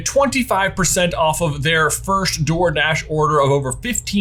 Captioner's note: none